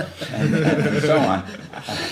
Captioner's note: laughter